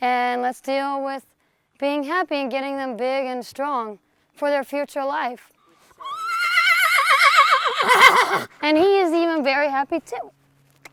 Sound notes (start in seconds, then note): 6.0 horse whinnies enthusiastically